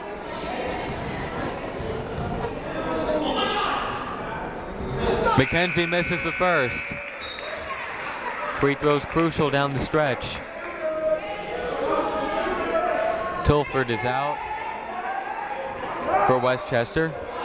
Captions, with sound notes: (people talking in the crowd) McKenzie misses the first. (buzzer ringing) (whistle tweeting) Free throw's crucial down the stretch. (people shouting in the crowd) Tilford is out for Westchester.